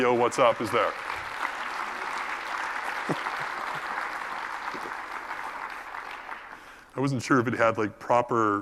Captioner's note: applause